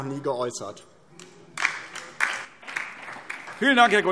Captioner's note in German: Beifall DIE LINKE